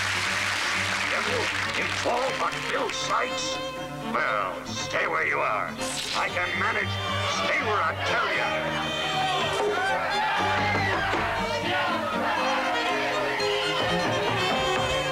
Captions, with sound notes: DARE YOU INFORM ON BILL SIKES? WELL, STAY WHERE YOU ARE. I CAN MANAGE. STAY WHERE I TELL YOU. [KNOCK ON DOOR] [CROWD SHOUTS] [KNOCK KNOCK]